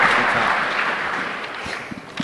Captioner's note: applause